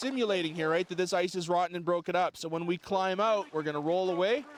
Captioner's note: voiceover